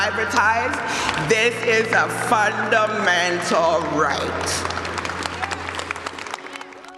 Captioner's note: le public applaudit